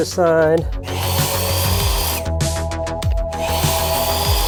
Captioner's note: saw whirs